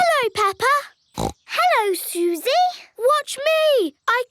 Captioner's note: snorts